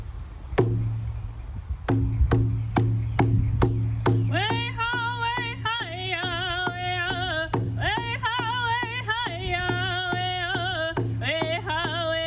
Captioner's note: speaking First Nations language